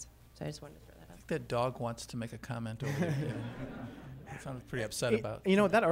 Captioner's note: laughter